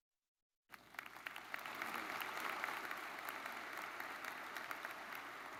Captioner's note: audience applauds